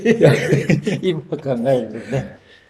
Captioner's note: laughs